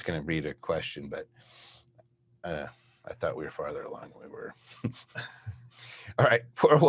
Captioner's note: chuckles